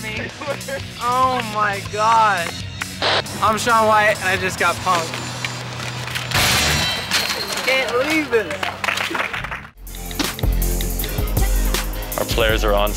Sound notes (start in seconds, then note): 7.8 clapping; 9.7 upbeat music